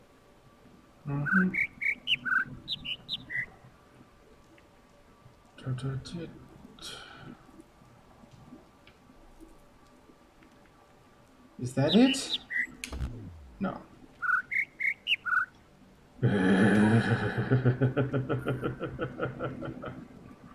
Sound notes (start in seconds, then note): 1.0 overlapping birds chirping, ˥ ˧ ˥ ˩; 11.3 overlapping birds chirping, ˥ ˧ ˥ ˩